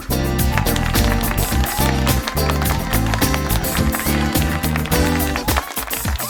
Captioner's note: audience cheering and applauding